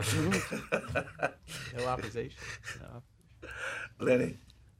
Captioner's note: laughter